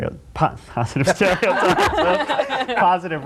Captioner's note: group laughing